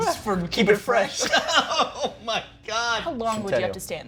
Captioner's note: laughing